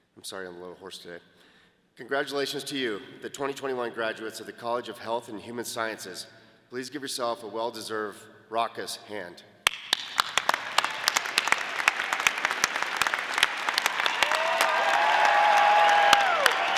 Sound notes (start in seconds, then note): 9.7 audience applauding